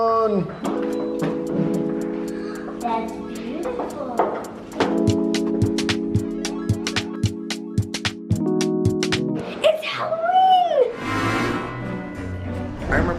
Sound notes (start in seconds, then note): 0.2 gentle nostalgic music; 4.1 heels clicking; 10.8 spooky music